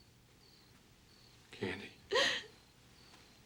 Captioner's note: crying